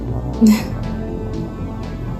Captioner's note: chuckles